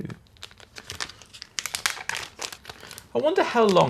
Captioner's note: plastic crinkling